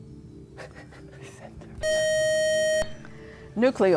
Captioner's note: buzzer